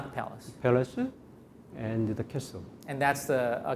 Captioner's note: speaking in Korean